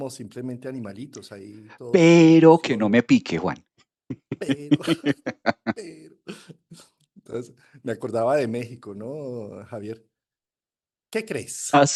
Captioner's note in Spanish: risas